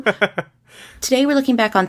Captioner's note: laughs